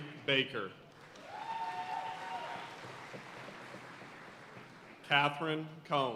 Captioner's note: audience cheering and applauding